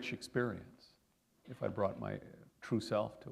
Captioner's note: none